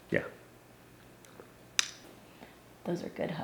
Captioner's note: lips smacking